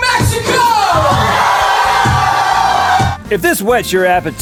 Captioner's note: crowd cheers